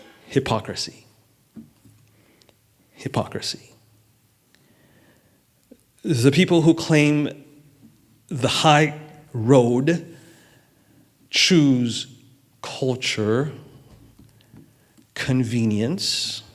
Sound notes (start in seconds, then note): none